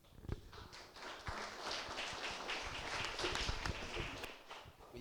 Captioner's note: applause